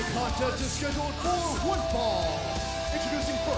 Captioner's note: bell ringing